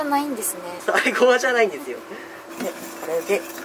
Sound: laughter

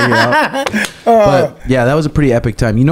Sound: laughs

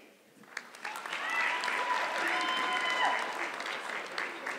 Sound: audience clapping

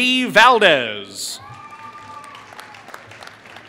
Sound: applause

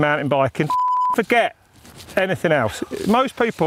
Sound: beep

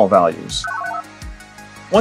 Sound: analog beeps

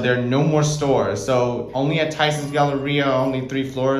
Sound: bell dings to 1 / one

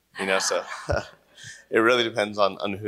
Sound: laughter

